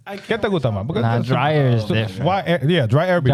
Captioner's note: speaking In Foreign Language